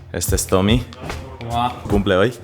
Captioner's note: in spanish